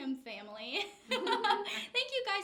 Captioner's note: laughs